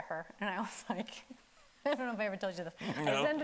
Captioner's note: chuckles